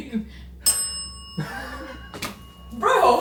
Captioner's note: bell dings